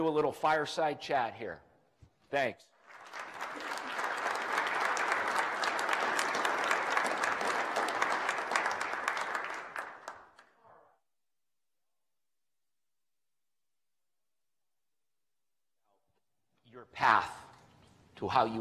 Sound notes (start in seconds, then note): 8.1 clapping